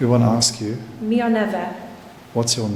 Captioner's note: speaking in foreign language